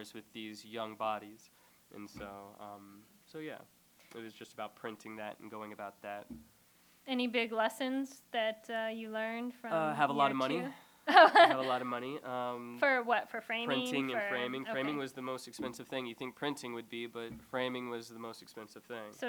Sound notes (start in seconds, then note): 11.0 laughter